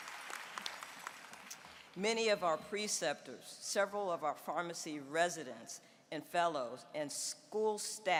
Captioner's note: applause